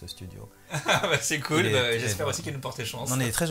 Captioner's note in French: rires